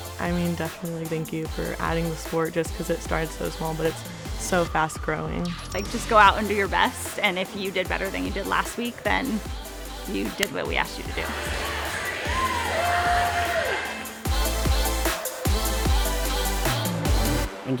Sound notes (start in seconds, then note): 11.4 cheerleaders chattering and cheering; 14.4 upbeat electronic music